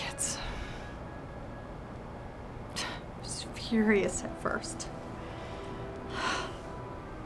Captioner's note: sigh